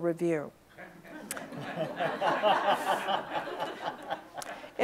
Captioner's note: audience laughs